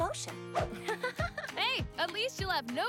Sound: laughs

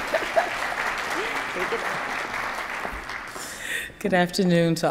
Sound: attendees applauding

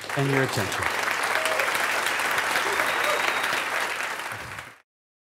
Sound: clapping and cheering

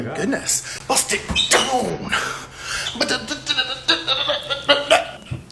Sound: beatboxes

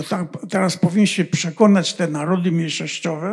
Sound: foreign language

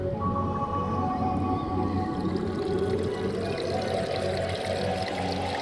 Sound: wind howling; water sloshing; mellow electronic music

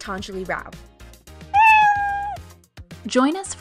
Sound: cat meow

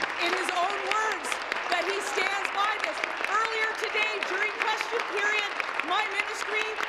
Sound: applause

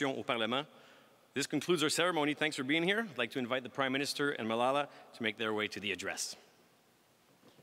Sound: speaking french

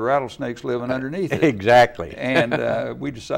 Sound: laughs

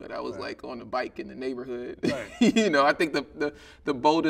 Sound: chuckling

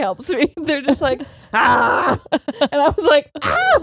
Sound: mock screaming; screams

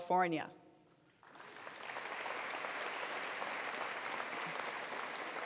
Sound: attendees applauding

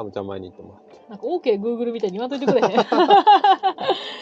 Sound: laughs

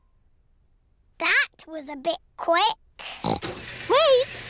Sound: oinks

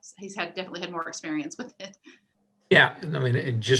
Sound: laughs

